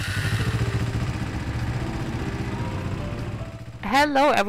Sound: motorbike roaring

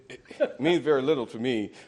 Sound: laughter

